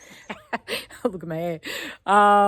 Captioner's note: laughs